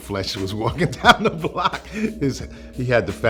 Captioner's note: laughs